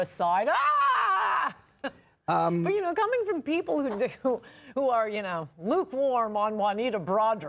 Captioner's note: screams